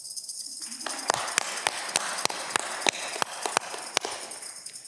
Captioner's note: audience clapping